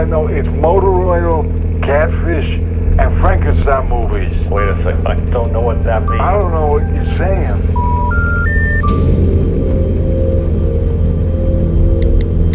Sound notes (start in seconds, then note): 8.3 busy signal; 9.8 phone notications; 12.3 mysterious music